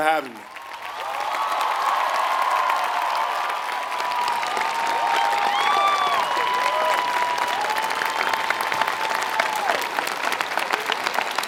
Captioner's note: applause